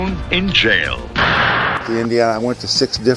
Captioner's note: bang! Judge's hammer striking down!